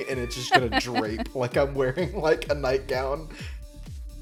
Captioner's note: laughs